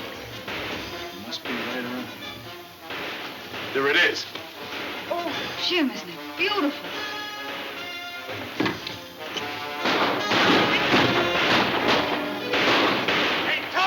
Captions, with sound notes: It must be right around here. There it is. - Oh, Jim, isn't it beautiful? (guns firing) - Hey, Tomb.